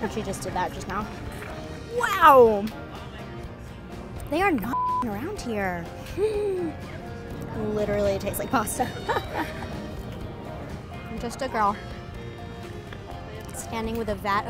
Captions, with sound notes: And she just did that just now. Wow, they are not (beeps) around here. Literally tastes like pasta. I'm just a girl standing with a vat of fries